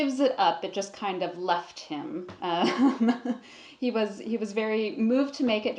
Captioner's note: laughs